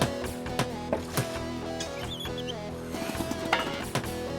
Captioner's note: hammer Tapping